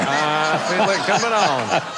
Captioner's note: laughter